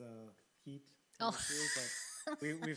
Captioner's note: laughs